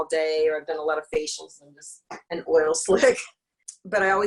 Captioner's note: laughs